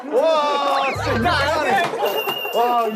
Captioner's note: Tertawa